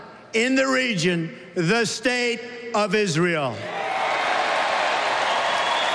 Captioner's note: cheers and applause